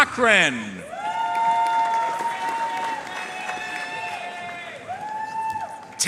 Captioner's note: audience cheering and applauding